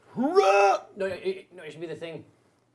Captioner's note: shouting